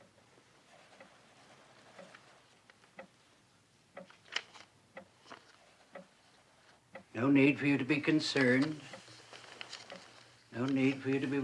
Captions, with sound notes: [clock ticking] - No need for you to be concerned. No need for you to be worried.